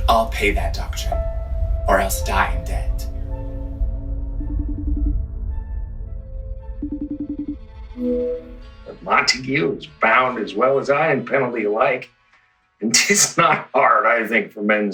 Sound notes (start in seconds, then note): 3.6 gentle music; 5.1 phone ringing